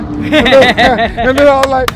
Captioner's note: laughing